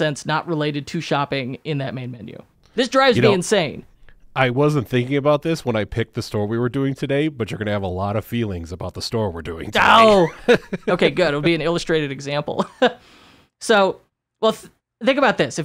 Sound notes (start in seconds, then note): 9.7 groans; 9.8 laughs